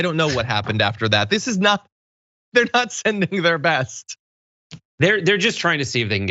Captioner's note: laugh